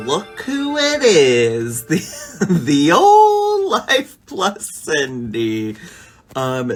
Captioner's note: laughs